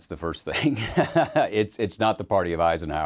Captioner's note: chuckles